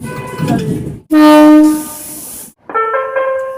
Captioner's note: air Horn